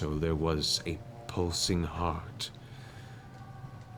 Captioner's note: none